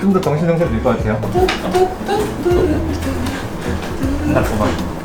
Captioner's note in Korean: 흥얼거린다